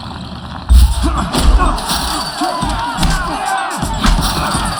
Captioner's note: grunting, cheering